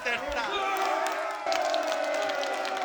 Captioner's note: crowd cheering